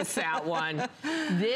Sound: laughter

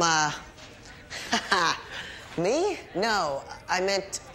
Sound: laughs

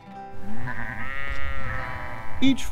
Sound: sound of sheep

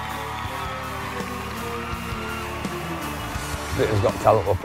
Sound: applause; cheering And Applause

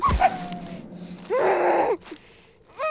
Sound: smack!; crying; scream

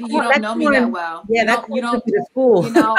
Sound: laughs

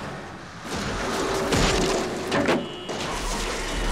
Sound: signs banging

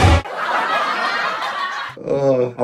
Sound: people laughing

